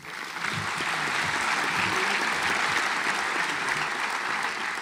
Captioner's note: audience applauds